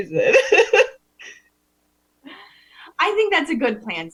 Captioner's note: laughs